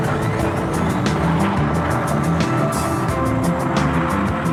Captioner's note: airplane rumbling